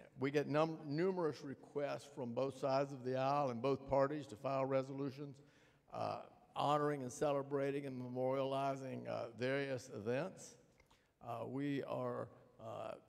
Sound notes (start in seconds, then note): none